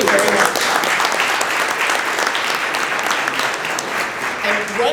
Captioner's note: applause